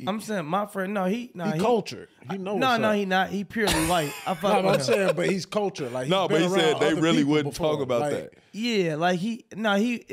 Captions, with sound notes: - I'm saying my friend. No he, - He cultured. He know what's up? - No, no he not. He purely white. (laughing) - I'm saying but he's cultured. He been around other people. - No, but he said they really wouldn't talk about that. - Yeah.